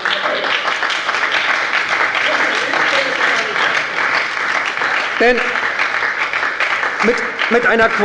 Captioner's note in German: Beifall und Lachen bei der SPD